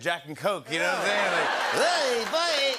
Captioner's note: laughter